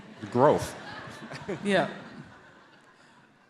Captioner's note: audience laughs